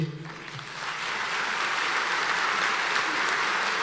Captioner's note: applauding